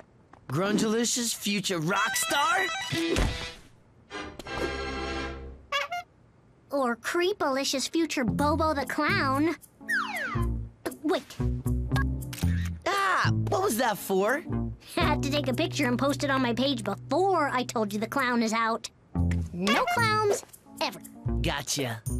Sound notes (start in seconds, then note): 5.7 honk!; 12.3 shutter click